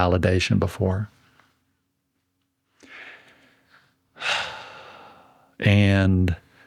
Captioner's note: sighs